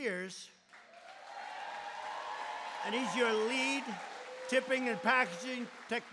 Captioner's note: applause